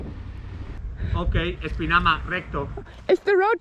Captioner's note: speaking in Spanish